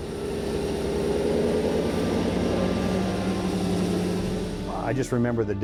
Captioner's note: sound of Rotary moving snow